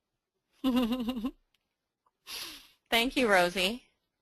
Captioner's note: laughing